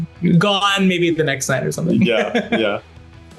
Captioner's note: laughing